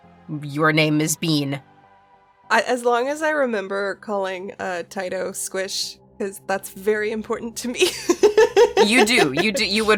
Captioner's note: laughs